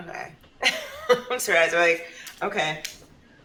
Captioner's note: chuckles